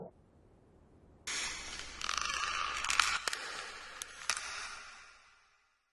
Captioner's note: cracking and popping sounds